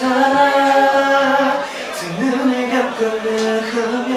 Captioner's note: murmuring